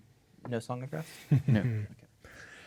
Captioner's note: chuckling